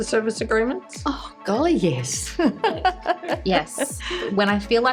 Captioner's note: laughs